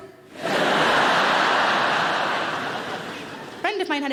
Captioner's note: audience laughing